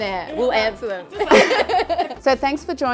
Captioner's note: laughs